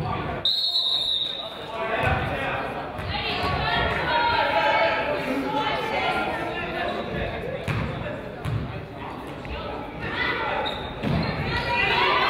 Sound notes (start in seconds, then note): 0.4 whistle blows; 0.6 referee yells